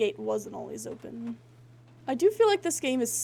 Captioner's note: none